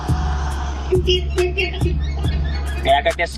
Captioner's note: car squeaking